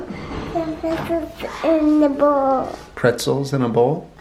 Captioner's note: mumbled baby talk